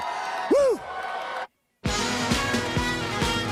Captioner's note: crowd cheering